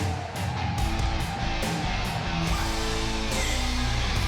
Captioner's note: energetic rock music; fans cheering